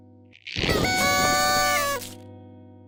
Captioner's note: party horns blow